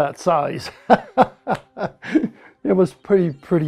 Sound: laughs

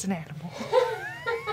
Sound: laughter

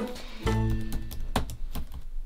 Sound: keyboard clacking

